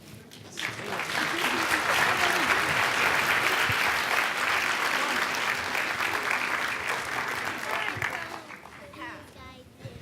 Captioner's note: applause